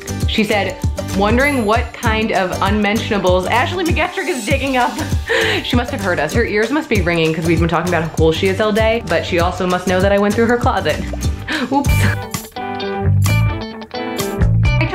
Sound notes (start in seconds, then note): 5.4 laughs; 12.1 lighthearted music